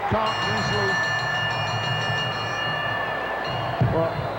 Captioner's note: bell rings